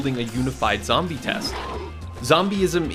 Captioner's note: zombie growling